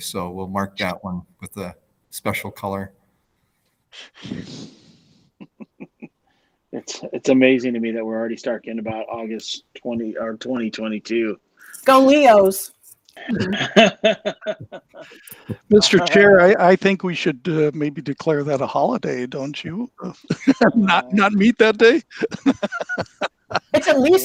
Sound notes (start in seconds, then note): 5.4 laughs; 13.3 panelists laughing; 21.8 laughs